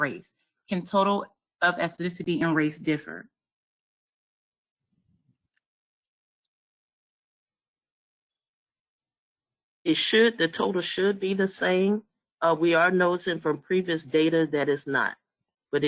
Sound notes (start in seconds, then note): 3.8 5 seconds pause